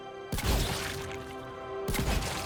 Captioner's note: bang